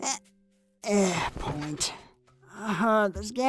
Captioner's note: groans; sighs